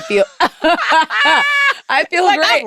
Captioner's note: laughter